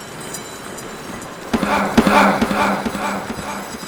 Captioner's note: yell